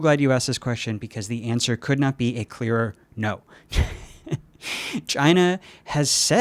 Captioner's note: chuckles